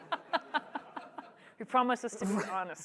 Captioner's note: laughter